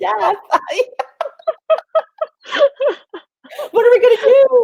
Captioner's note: both laughing